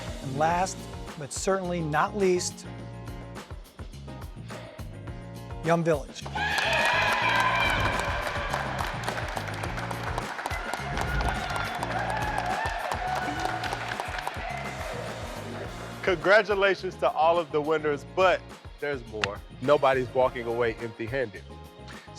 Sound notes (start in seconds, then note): 3.3 bright upbeat music; 6.9 applauding